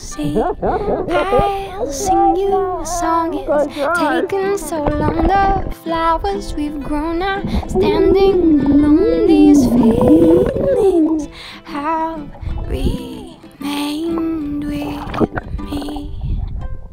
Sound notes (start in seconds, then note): 0.2 laughing; 4.8 laughing; 7.4 making noisy bubbles